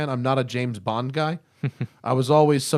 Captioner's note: laughter